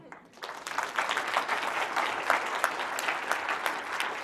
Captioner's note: applause